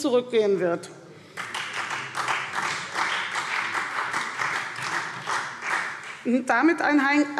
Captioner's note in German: Beifall